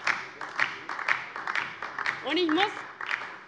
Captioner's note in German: Beifall DIE LINKE